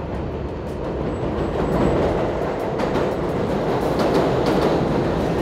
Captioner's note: train rumbling